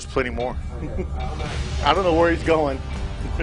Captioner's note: laughing